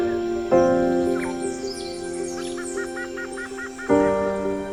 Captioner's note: birds and insects chirping; somber piano music